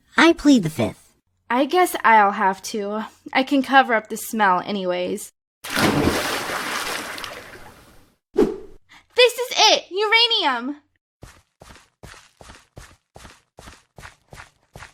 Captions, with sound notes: I plead the fifth. I guess I’ll have to. I can cover up the smell anyways. [SPLASH] This is it! Uranium!